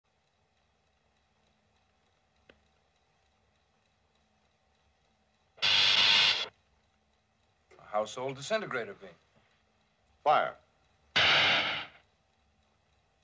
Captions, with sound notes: [sparking] A household disintegrator beam! Fire. [small explosion]